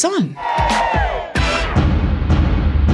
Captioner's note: people cheering; dramatic music